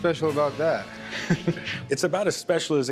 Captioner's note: chuckles